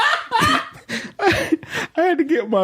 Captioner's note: laughs